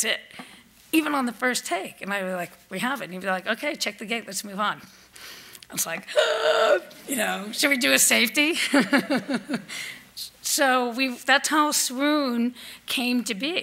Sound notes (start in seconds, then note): 9.8 laughs